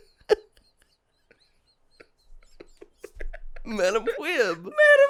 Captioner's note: giggles